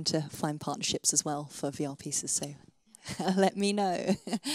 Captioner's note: laughs